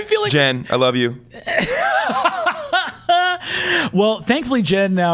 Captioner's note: laughs